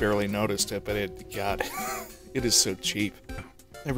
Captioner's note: wheeze